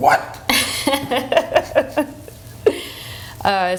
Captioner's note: laughs